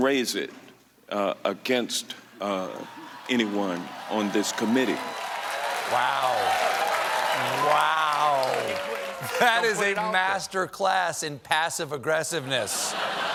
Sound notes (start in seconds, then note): 5.6 cheers and applause